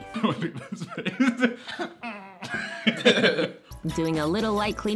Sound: laughing

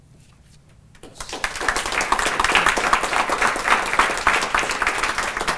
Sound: applause

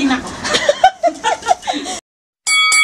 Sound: laugh

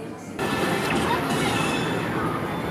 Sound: defeating arcade tone

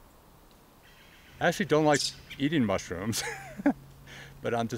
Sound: chuckles

